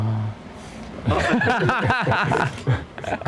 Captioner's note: laughter